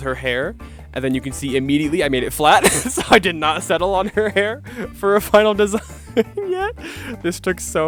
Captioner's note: giggling